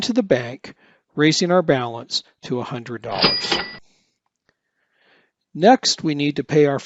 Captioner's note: cash register ringing